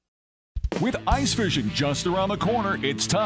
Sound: voiceover

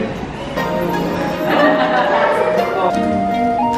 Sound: laughing

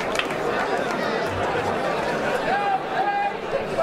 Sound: crowd talking

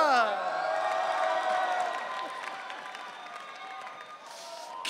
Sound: audience cheering

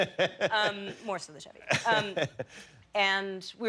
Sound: laughter

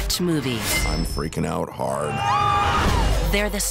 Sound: all scream

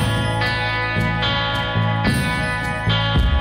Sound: none

